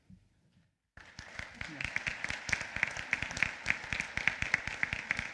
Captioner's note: applause